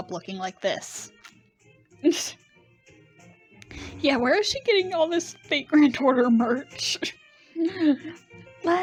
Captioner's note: laughing